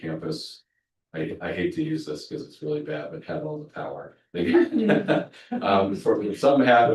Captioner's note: laughs